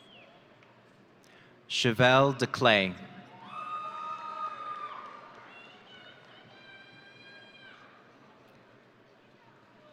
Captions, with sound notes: Chevelle Declay. (audience cheering)